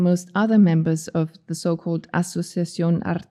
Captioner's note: speaking in foreign language